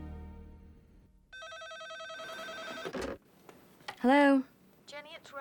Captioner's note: phone ringing